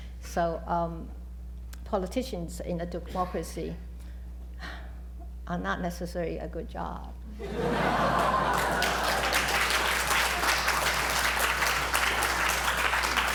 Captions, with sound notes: So politicians in a democracy are not necessarily a good job. [LAUGHTER] [APPLAUSE]